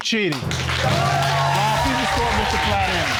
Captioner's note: cheering